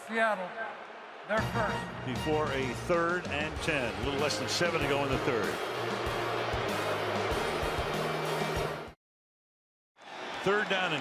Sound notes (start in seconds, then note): 6.2 booing; 7.1 upbeat music